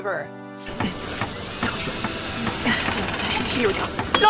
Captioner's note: Basketball pants and murmurs to herself whilst working